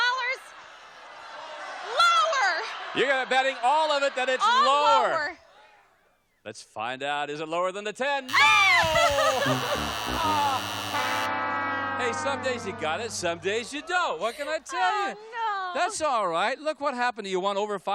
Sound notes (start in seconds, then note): 1.8 audience yelling